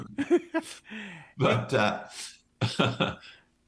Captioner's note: both laughing; laughs